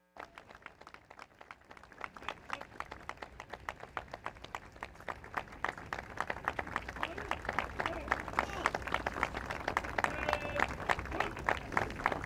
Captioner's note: applause